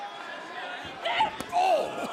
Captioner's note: cheers and applause